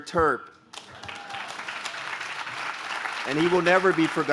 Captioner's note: audience claps